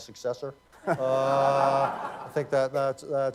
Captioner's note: laughter